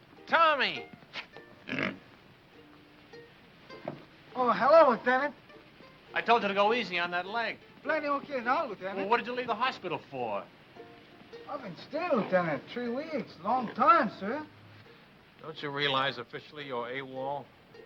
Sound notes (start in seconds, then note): 1.6 pig snorts